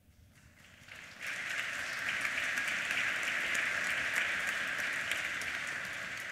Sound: applause

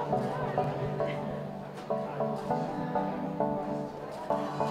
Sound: background noise of testing center

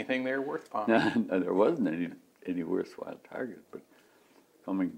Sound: laughs

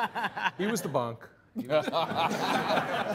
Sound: all laughing

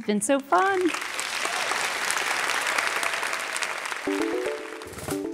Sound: applause

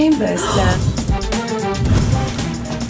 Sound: gasps

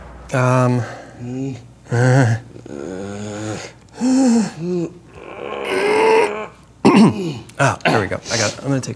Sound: groaning

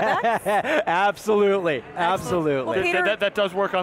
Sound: laughs

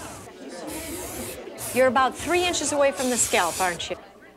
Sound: spraying

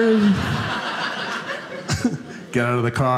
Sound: audience laughing

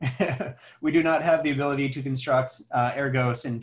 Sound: laughs

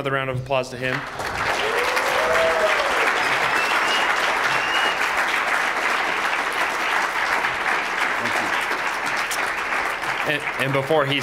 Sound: applause

